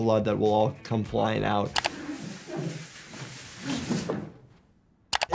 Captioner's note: mouse clicks; man sliding softly; mouse clicks